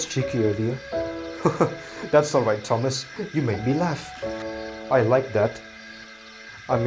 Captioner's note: chuckles